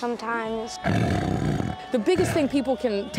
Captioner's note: tiger growls